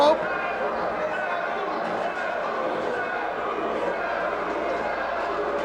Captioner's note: spectators chanting "Sabu!"